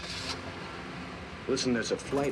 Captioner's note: car engine starts